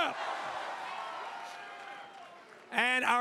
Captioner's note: crowd cheers